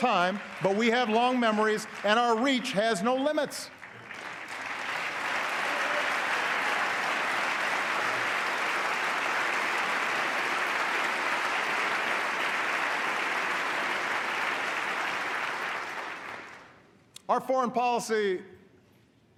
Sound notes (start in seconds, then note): 0.0 applause; 10.4 applause